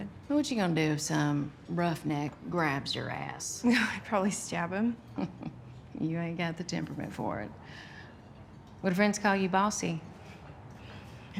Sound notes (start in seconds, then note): 5.0 chuckles